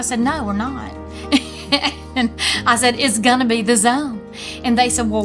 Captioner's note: laughs